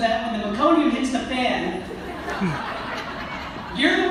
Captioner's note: audience laughter